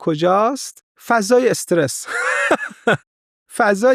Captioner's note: laughs